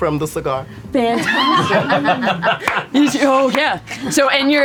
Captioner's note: laughter